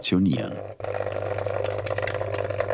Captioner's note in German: Schnelles Rattern